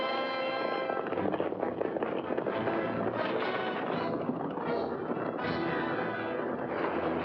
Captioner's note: dramatic music; hooves pounding; dramatic music